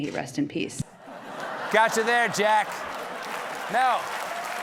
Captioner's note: laughter; applause